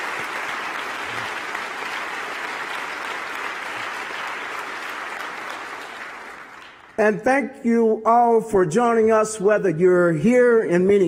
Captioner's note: applause